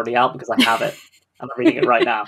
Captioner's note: laughs